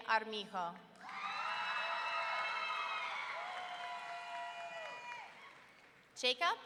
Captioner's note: audience cheering and clapping